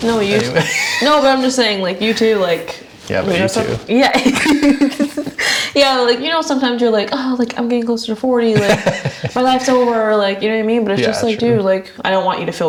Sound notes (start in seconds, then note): 3.0 laughs